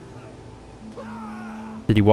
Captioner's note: random Scream